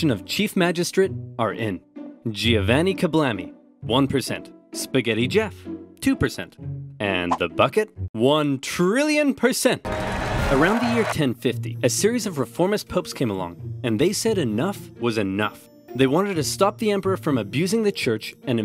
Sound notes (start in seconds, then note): 9.8 cheering; 9.9 joyful music